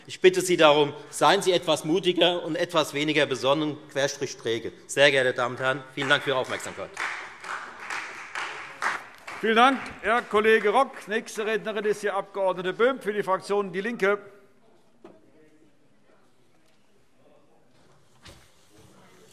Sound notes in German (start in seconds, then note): 7.5 Beifall Freie Demokraten